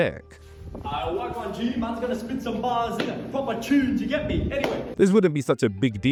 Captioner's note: clap